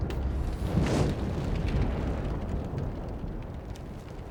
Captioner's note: ominous music; fire roaring